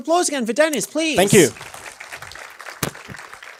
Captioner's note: applause